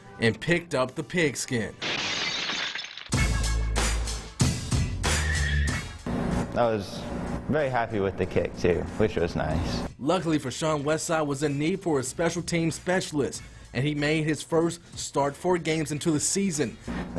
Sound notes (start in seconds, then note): 3.6 glass breaking; 6.0 upbeat music